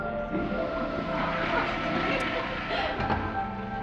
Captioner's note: laughter